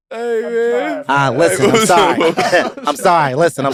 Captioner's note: chuckles